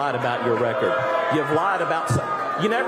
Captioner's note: boos